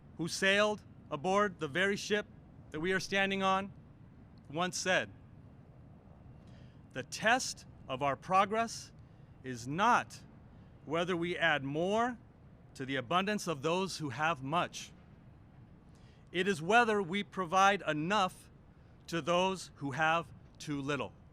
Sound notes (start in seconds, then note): none